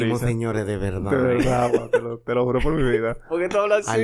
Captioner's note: laughs